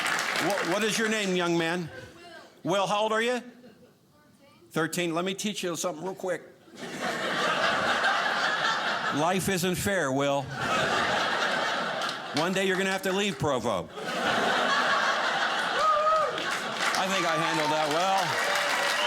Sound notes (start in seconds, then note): 6.7 audience laughing; 10.8 audience laughing; 14.0 audience laughing; 18.9 audience cheering